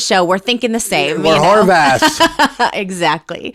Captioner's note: laughing